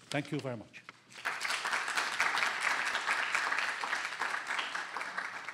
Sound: applause

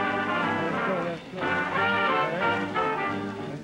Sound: whispering

